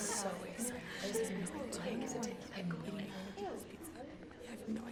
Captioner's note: students chattering